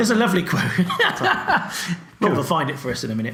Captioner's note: both laugh